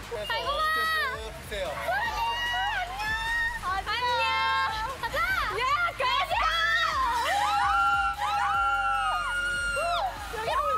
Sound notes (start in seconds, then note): 6.9 screams